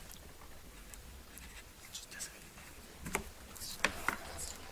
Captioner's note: contestants whisper